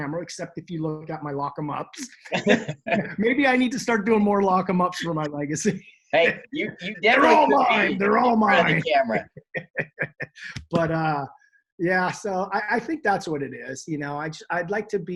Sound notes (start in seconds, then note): 6.2 laughs